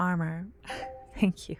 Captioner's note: positive sounding chime in the distance